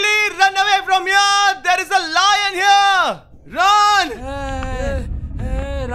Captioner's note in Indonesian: Teriakan